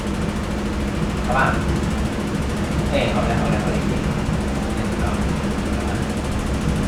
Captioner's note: speaking in Mandarin